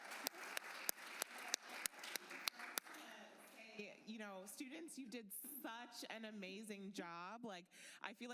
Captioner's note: applause